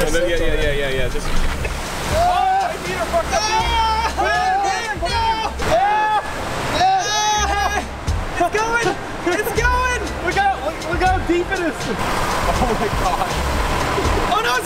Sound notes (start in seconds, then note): 2.0 shouting